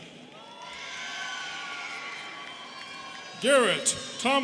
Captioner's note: students cheering